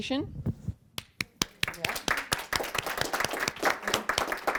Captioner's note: audience applauds